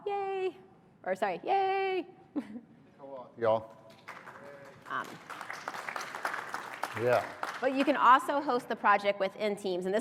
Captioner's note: applause